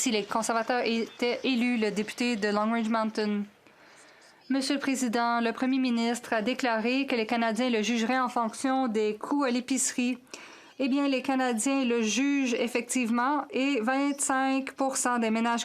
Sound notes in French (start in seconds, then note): 5.6 voix de l'interprète